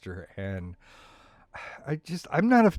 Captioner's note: sighs